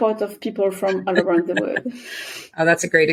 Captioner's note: laughs